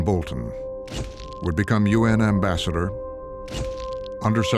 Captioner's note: camera shutter clicking